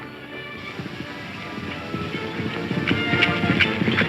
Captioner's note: horses galloping